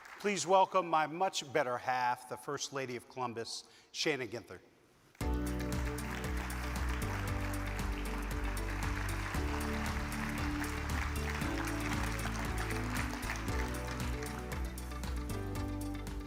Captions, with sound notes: - Please welcome my much better half, the first lady of Columbus, Shannon Ginther. (upbeat music) (audience claps)